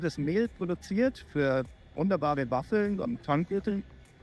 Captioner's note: speaking german